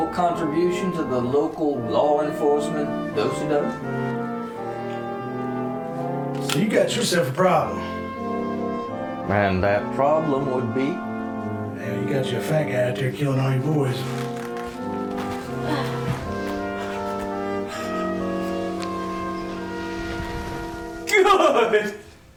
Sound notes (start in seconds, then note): 15.5 excited movement, sigh from woman; 17.3 pure excitement gasps